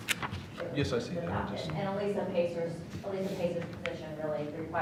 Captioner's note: speaking off mic